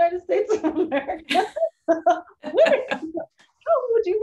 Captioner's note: laughter